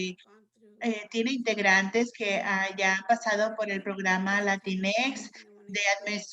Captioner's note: in Spanish